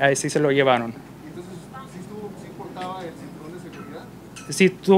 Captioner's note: reporter in Spanish